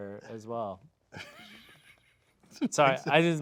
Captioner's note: snickering